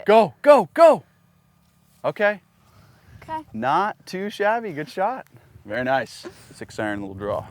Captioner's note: none